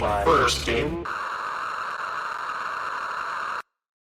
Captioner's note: static